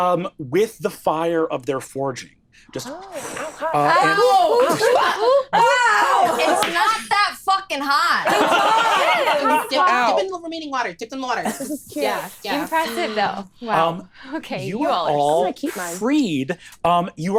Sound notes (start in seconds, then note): 3.0 imitates fire blazing; 8.2 all laughing